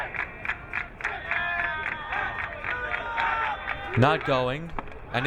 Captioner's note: crowd cheering